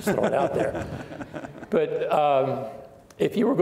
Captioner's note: laughing